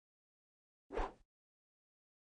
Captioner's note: whooshes